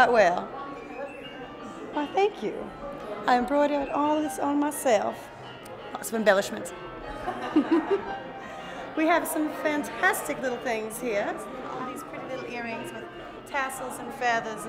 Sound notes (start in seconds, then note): 7.1 chuckles